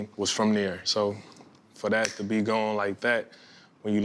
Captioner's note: snapping fingers